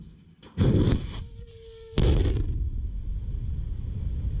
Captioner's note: missile whooshing